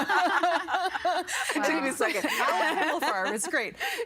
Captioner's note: all laughing; laughing